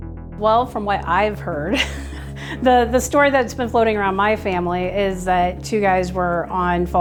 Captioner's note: laughs